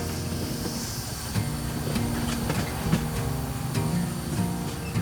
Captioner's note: train hissing